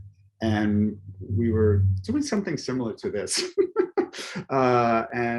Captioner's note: chuckles